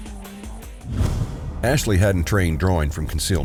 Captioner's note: whoosh